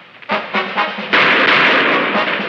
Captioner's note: shots firing